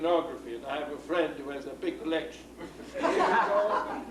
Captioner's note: laughs